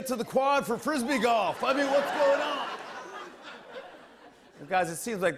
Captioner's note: laughter